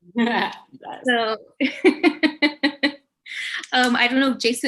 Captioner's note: laughs